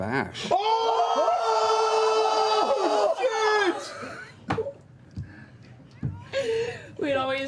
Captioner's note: shouting